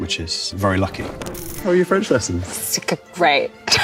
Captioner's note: film reel clicks; laughs